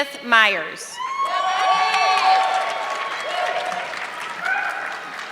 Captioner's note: audience clapping